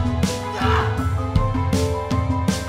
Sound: shouts

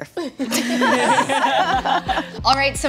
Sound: laughter

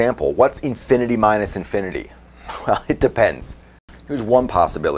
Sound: laugh

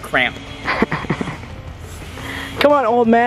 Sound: laughing

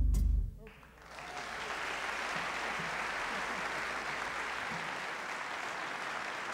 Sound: applause

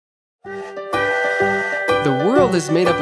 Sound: train whistles

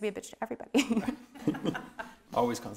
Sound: laughing

